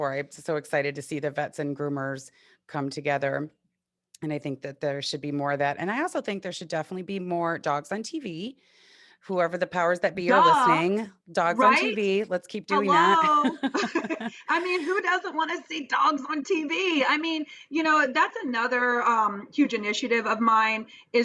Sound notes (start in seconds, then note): 13.0 both laughing